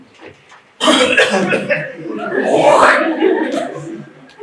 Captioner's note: coughs and spits